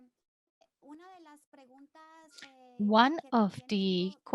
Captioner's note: speaking in Spanish